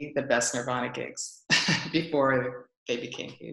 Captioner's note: laughs